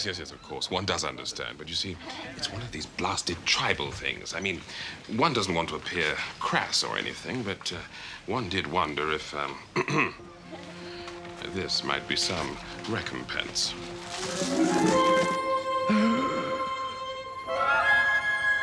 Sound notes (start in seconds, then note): 9.7 clears throat; 15.9 gasps